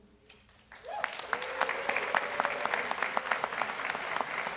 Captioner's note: audience applauds